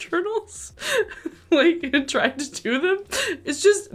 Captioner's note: laughing